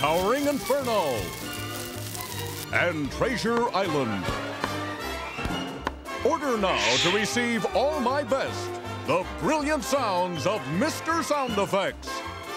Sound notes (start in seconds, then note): 0.4 crackling